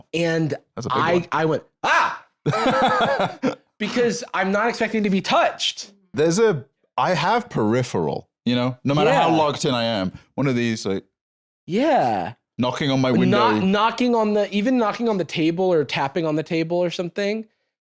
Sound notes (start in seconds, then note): 2.5 laughs